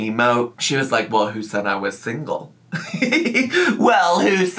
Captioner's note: laughs